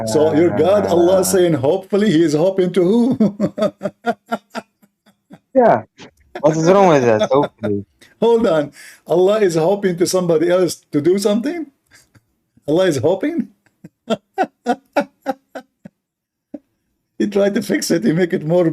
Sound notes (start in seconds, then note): 13.5 Ketawa